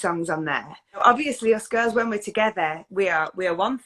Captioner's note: none